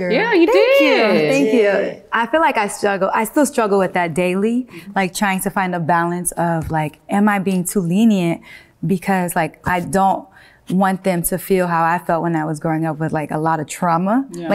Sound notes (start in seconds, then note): none